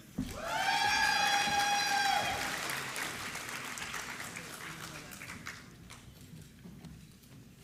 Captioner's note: applause